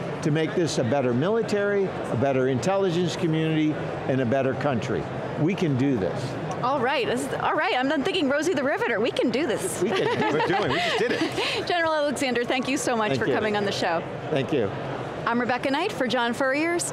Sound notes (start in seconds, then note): 9.8 laughing